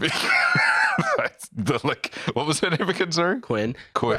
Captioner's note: laughs